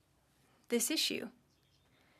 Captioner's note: speaking French